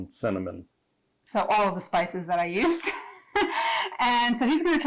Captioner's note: laughing